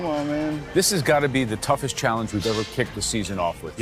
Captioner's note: none